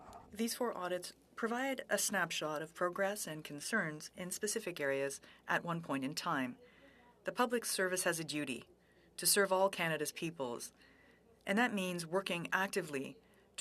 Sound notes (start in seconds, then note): 2.6 speaking French